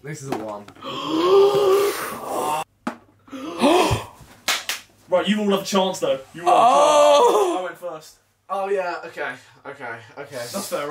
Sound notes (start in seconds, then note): 0.8 gasping; 4.4 clapping